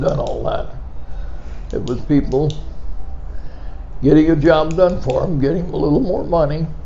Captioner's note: pen clicking